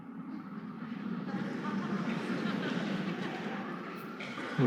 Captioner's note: audience laughing